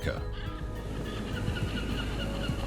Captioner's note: birds cry